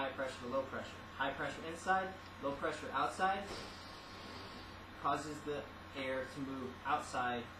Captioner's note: balloon deflates